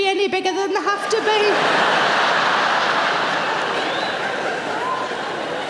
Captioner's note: audience laughing